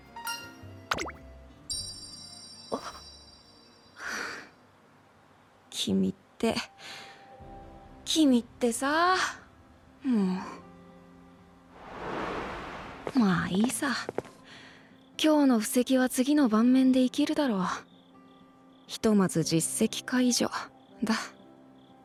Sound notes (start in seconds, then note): 4.0 sigh